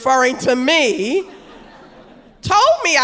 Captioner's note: audience laughing